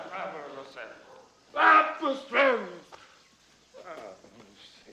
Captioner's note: speaking in illyrian language